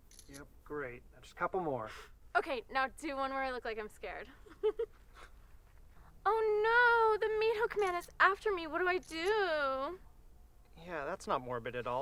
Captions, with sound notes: Yep. Great. Just a couple more. - Okay, now do one where I look like I'm scared. (giggles) Oh no, the Meathook Man is after me. What do I do? - Yeah, that's not morbid at all.